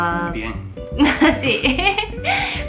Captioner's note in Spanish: risa